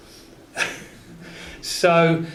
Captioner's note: laughs